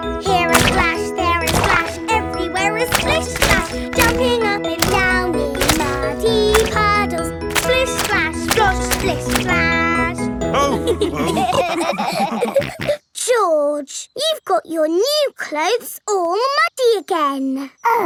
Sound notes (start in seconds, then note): 10.6 all laughing